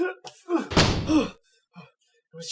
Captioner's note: door slams